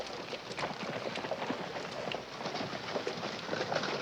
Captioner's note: horses walking and neighing